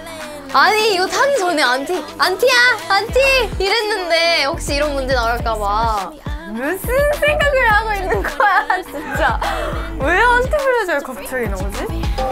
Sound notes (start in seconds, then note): 6.4 upset